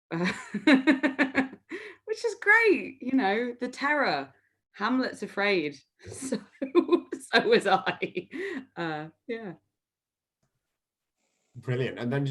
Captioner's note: laughter